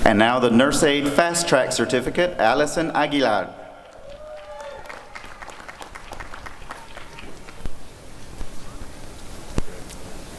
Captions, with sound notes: And now the Nurse Aide Fast Track Certificate— Alison Aguilar [applause and cheering]